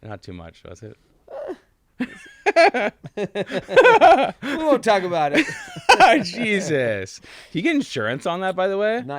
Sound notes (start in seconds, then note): 2.0 both laughing; 5.8 laughs